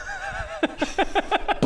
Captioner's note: unsympathetic laughs